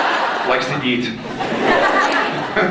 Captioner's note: laughs; scattered laughs